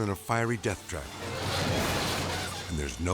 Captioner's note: metal clanking